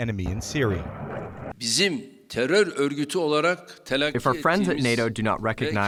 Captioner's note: through translator